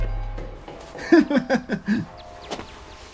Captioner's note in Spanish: risas